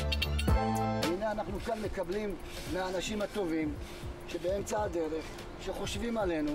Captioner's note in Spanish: En Hebreo